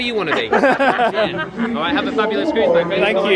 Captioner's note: both laughing